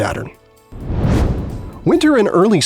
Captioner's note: whoosh